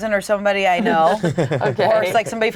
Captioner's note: group laughing